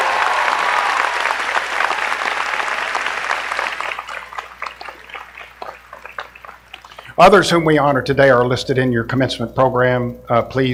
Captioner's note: applause